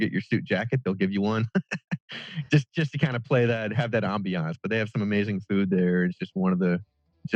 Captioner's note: laughs